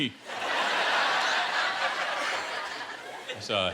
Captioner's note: laughter